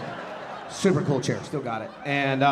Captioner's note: audience laughing